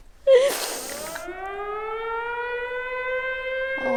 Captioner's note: air raid siren